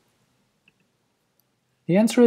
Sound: pause

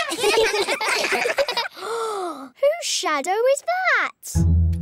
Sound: all giggle; gasps

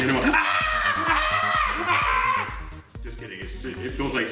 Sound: screams

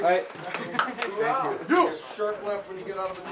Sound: man laughs

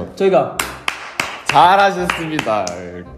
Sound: claps

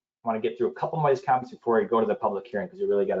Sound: voice muffled

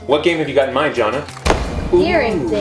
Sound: boom echoing

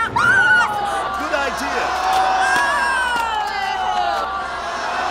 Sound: all groaning

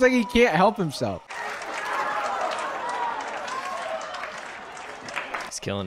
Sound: crowd laughing and clapping

